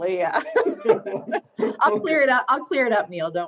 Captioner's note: laughs